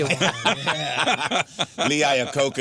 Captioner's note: laughing